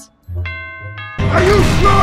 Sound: doorbell rings

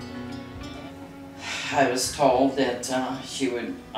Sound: sighs

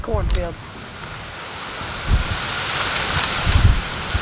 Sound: leaves rustling

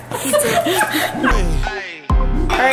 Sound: adults laughing; hip hop music

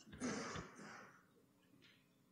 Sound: quietly

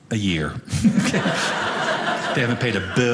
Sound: audience laughing

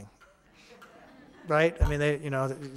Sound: audience laughing

